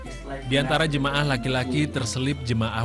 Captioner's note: non-english speech